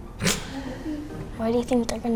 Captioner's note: laughs